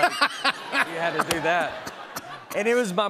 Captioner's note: laughs